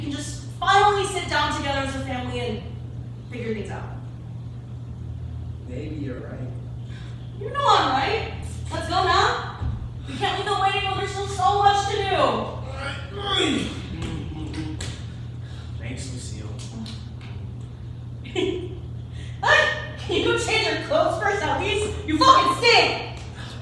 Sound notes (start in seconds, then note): 12.5 groans; 16.6 giggles